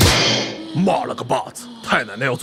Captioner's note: grunt